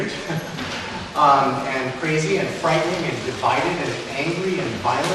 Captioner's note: laughs